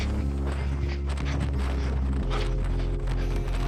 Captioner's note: wind blowing